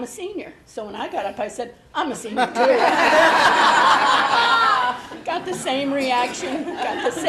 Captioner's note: laughing